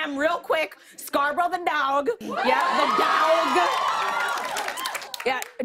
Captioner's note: cheers and applause